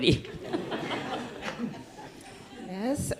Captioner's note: audience laughs